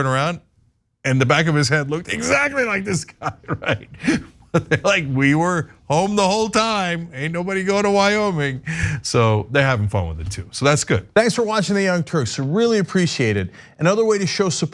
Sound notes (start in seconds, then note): 2.1 laugh